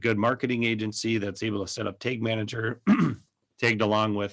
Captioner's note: clears throat